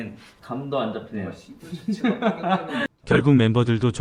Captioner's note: laughs